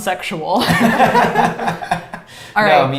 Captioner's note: all laughs